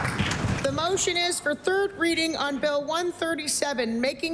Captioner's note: applause